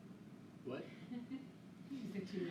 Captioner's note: laughing